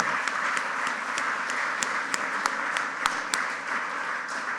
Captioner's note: audience applauding